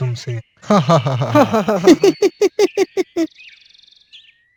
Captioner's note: everyone laughs